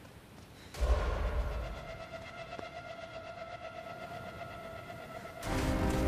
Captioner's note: footsteps approaching; pensive music; dramatic music